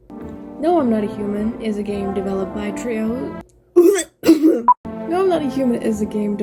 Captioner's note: COUGHS, dies I guess